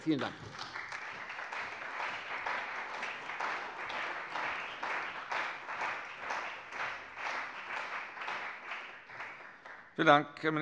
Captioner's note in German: Beifall bei der CDU und dem BÜNDNIS 90/DIE GRÜNEN